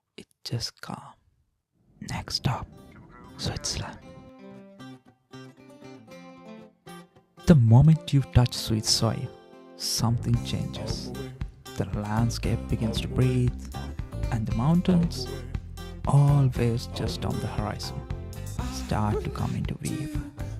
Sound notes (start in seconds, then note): 1.7 whispering